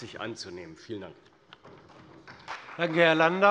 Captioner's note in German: Beifall bei der CDU und dem BÜNDNIS 90/DIE GRÜNEN